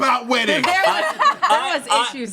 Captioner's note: laughs